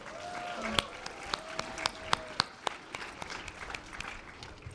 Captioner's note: audience applause